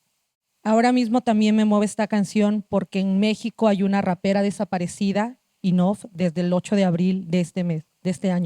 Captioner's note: speaking Zapotec language